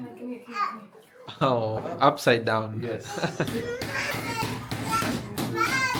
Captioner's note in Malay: ketawa